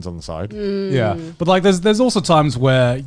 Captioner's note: humming in agreement